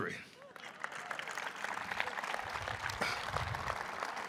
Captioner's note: audience applauding